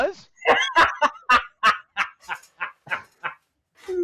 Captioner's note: laughter